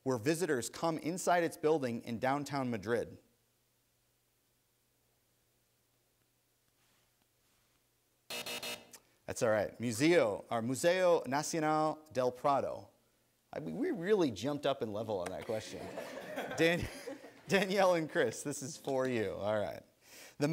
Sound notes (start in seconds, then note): 8.3 buzzer; 15.5 chuckling